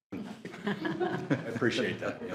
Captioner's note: all laughing